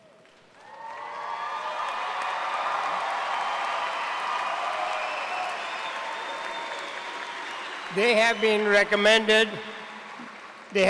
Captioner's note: cheers and applause